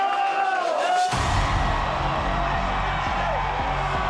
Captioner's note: crowd cheering